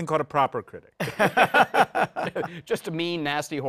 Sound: laughter

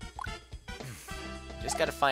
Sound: sigh

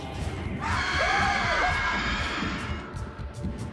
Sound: ominous music; screaming

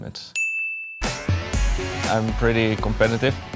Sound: bell

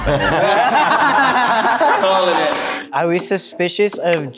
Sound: group laughing

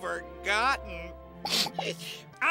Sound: sniffing

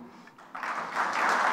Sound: clapping

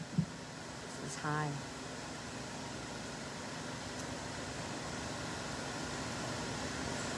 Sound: adjusts microphone

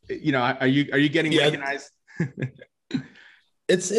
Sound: laughs

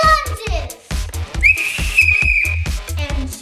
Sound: blowing a whistle

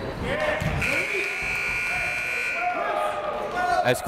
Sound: buzzer

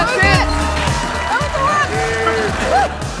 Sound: applause, cheering

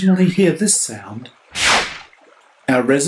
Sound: swish

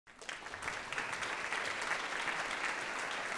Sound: applause

